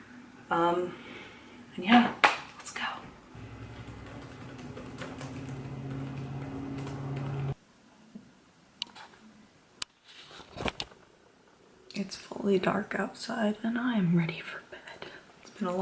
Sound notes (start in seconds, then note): 3.4 typing sounds forever